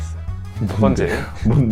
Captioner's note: laughing